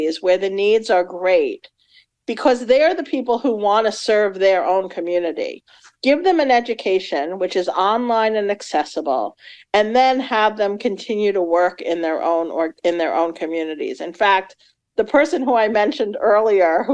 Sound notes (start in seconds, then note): none